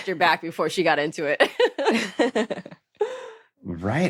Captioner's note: laugh